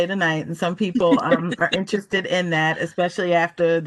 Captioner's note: laughter